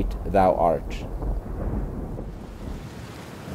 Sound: thunder rumbling; rain beating

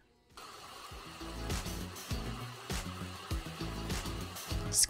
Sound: blender grinding

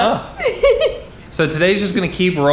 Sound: laughs

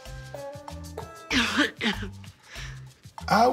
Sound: coughs

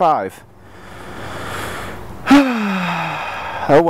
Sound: sighs

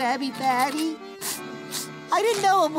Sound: sniffling

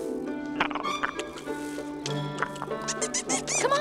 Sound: Meeko purring; Flit squeaking

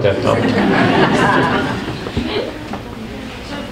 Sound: group laughs

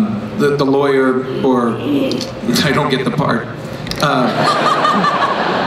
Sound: everyone laughs

